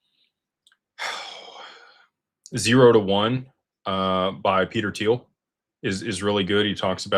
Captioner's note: sighs